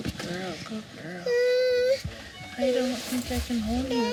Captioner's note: cries